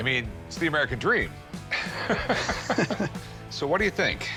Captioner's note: chuckling